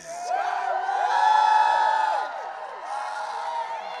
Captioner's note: audience cheering